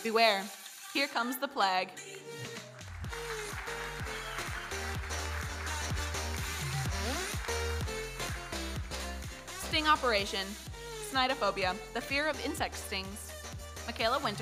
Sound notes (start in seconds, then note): 2.3 audience applauding; 6.4 electronic dance music